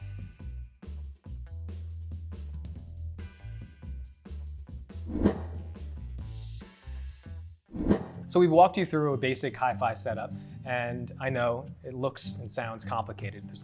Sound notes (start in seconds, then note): 5.0 whoosh; 7.7 whoosh